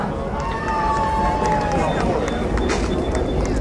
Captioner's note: crowd cheering